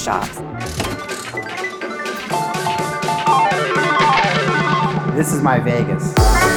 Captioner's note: slot machine whirring